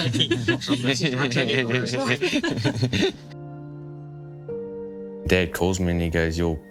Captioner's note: group laughing